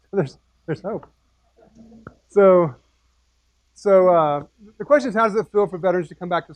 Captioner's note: laugh